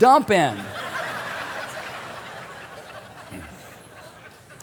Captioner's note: audience laughing